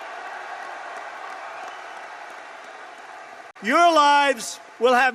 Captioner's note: applause